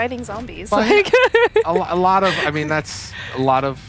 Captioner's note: laughter